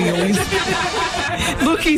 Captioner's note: laughter